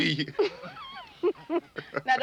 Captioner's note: laughing